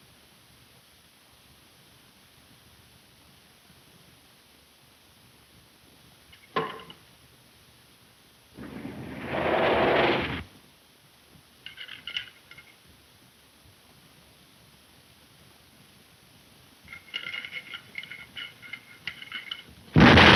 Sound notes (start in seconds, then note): 6.4 box thuds; 9.1 engine puttering; 16.9 lock rattling